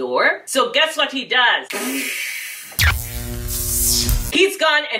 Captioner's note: electricity Zapping